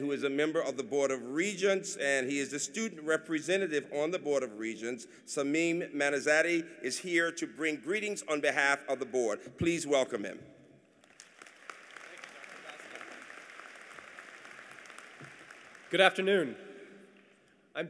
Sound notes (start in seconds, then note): 11.0 applause